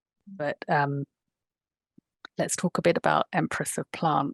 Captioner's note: none